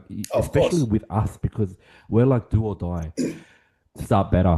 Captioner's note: laughs